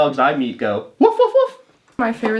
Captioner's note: imitating dog barking